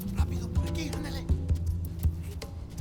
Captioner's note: speaks Spanish